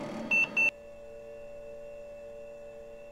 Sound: beeping

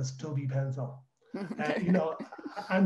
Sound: laughs

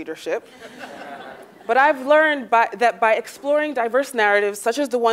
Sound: laugh

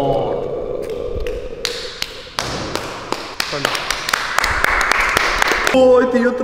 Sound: applause

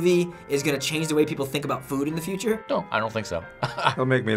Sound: laughs

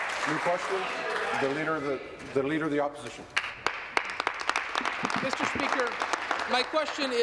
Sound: applause

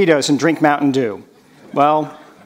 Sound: none

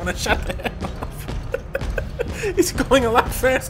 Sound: laughing

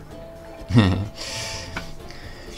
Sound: delighted chuckle

